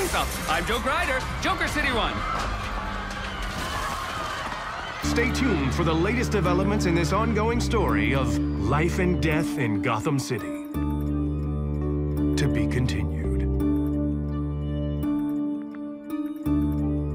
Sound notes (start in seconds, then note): 2.6 crowd screaming; 14.0 uneasy music